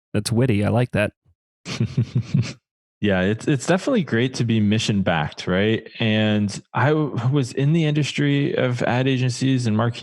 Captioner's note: laughs